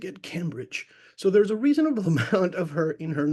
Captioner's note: laughs